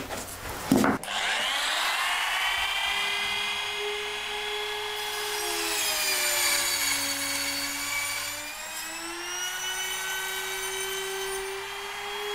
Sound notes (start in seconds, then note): 1.0 machine hums; 7.1 loud whirring